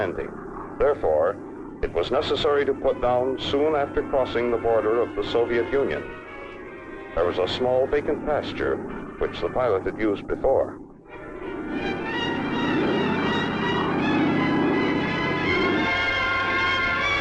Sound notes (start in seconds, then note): 11.1 plane whirring; 13.2 dramatic orchestral music